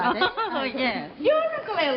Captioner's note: Myrtle laughing